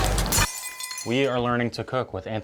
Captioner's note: glass shattering